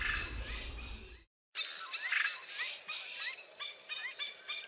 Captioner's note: birds chirping